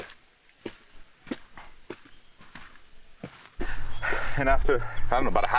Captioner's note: footsteps pattering